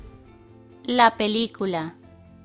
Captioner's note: in Spanish